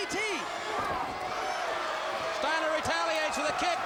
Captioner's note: crowd cheering